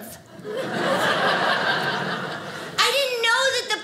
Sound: audience laughing

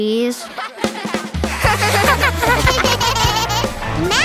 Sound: laughing

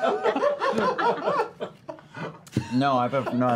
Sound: laughter

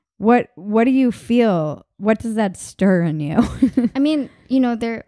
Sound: laughing

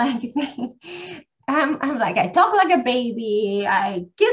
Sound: laughs

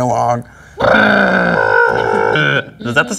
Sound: space engine noises

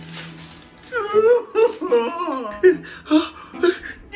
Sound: crying

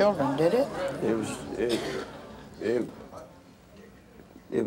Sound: stammers

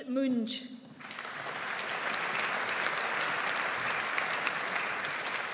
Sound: audience applauds

